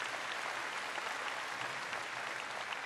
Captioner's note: applause